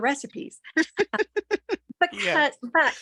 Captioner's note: laughing